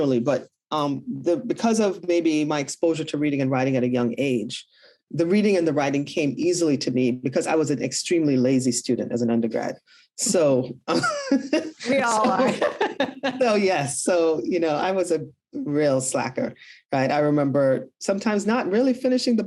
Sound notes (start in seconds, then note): 10.9 both laugh